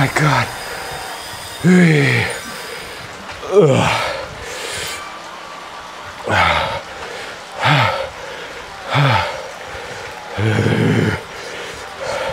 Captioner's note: breathing